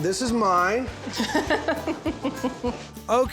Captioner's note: cuts him off giggling